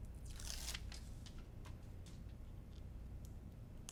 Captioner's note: paper rustling